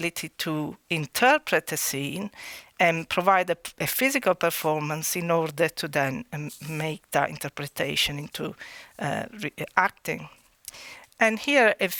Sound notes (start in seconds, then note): none